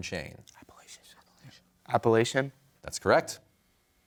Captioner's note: whispering